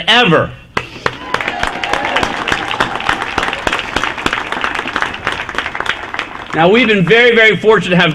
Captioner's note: applause